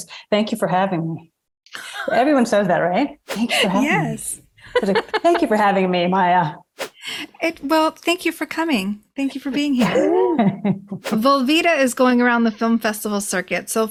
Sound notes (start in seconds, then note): 4.6 laughs; 9.5 laughs